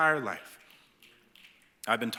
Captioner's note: snapping